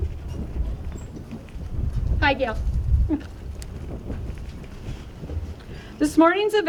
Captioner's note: laughs